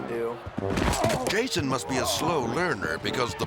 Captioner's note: grunting and groaning